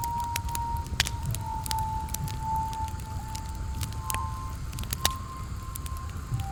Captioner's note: fire crackling continues